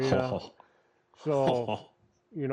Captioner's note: laughs